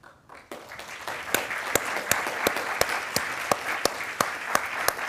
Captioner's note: attendees applauding